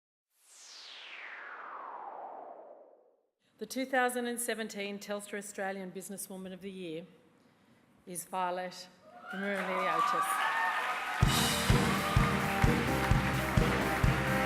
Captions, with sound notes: The 2017 Telstra Australian Business Woman Of The Year... ..is Violet Roumeliotis. (CHEERING, APPLAUSE)